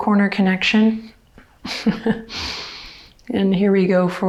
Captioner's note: laughs